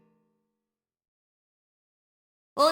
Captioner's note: silence